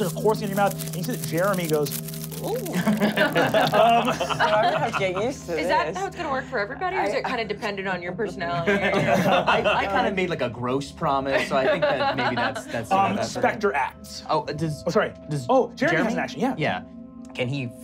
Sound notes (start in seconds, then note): 2.7 squeals